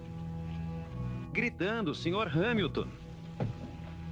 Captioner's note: shouting